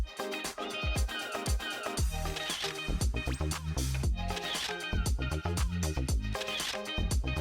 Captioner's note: upbeat music; camera snapping